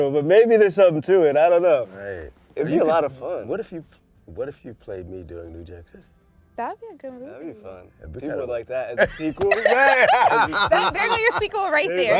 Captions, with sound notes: But maybe there's something to it. I don't know. - Right. - It'd be a lot of fun. - What if you-- what if you played me doing New Jack City? - That would be a good movie. - That'd be fun. People would like that as a sequel. [LAUGHTER] - There goes your sequel right there.